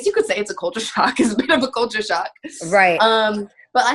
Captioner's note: chuckling